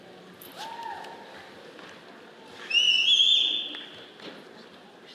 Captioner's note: audience cheers and whistles